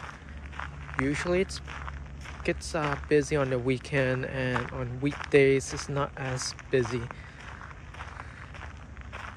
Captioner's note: walking on gravel